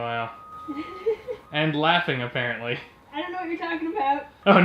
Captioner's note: laughing softly